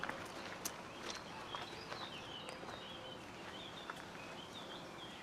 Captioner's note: birds chirping